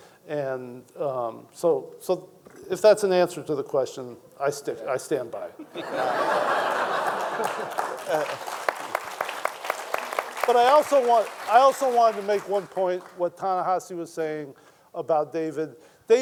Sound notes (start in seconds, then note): 5.6 panelist chuckles; 5.6 audience laughing; 8.6 audience applauding